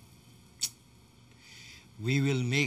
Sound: clicks tongue

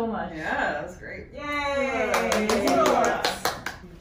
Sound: applause

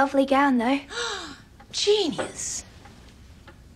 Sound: gasps

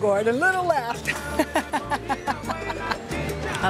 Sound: laughs

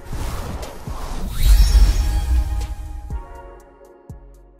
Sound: screen whooshing

